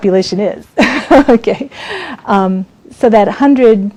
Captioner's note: laughs